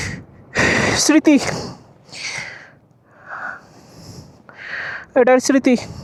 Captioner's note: sigh